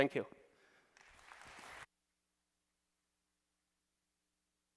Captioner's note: applause